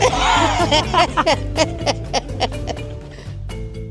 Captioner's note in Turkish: kahkaha